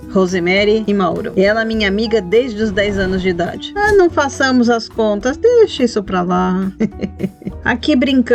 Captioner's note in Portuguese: risos